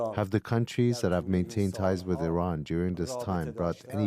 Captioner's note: speaking Alternate Language